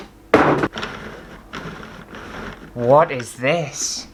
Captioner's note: flinging Packaging; handle Cranking